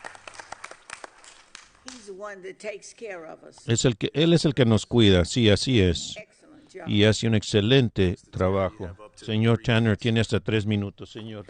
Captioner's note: applause